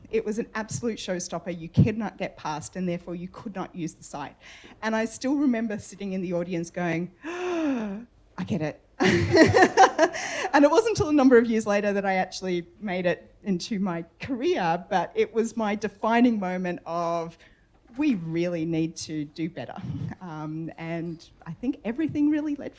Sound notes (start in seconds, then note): 7.2 gasp